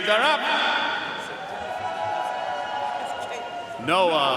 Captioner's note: audience cheering and applauding